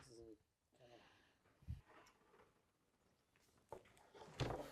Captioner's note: speaking faintly